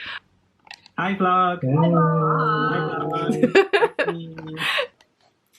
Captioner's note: laughs